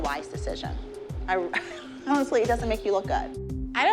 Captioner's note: laughs